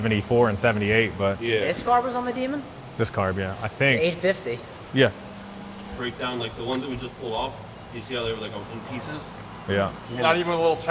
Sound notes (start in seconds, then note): 6.3 engine growling